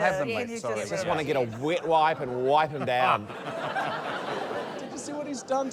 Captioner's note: laughter